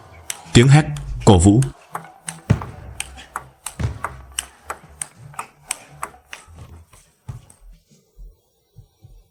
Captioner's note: shout / Cheer